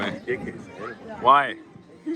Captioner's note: chuckles